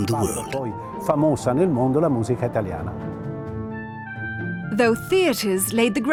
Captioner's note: speaking Italian